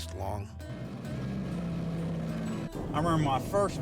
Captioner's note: engine rumbling